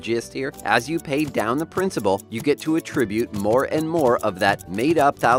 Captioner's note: clock ticks as money stacks land